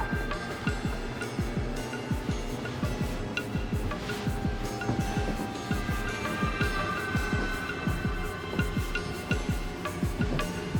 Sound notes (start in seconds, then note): none